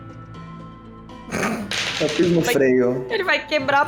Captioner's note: laughs